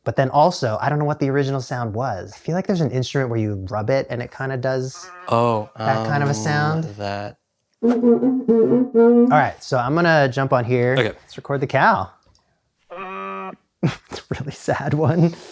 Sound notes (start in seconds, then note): 12.6 toy sound